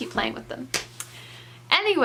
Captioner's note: slaps thighs